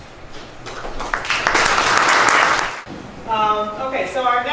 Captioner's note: applause